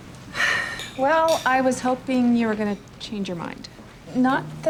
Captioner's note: sighs